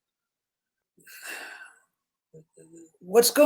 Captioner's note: sighs